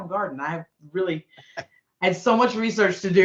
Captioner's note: chuckling